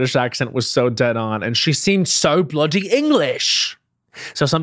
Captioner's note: mimics british accent